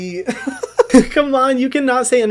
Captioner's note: laughs